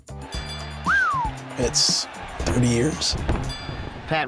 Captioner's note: whistles